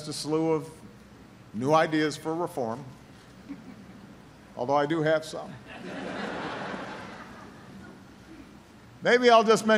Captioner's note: laughter